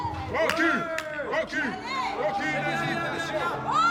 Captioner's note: shouting continues